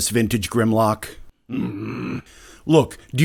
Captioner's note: Vintage Grimlock grumbles